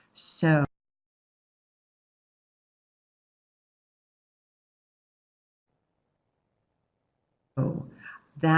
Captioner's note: no sound